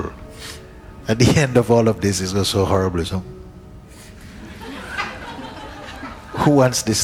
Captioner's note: laughter